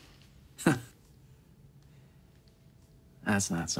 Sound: chuckles

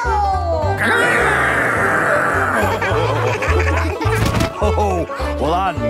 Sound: laughing

